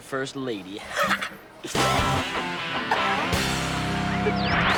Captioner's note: laughing